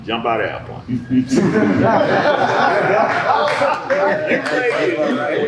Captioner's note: audience laughing